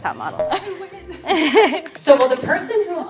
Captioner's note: all laughing